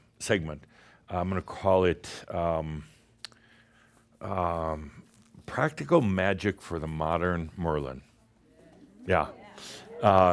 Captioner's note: audience approves